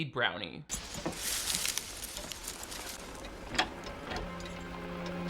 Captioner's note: plant rustling; soft eerie music